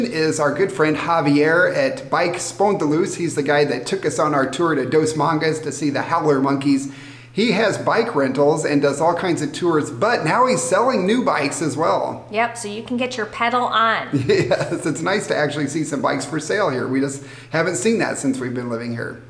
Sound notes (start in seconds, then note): 14.1 laughing